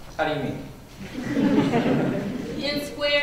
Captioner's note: laughter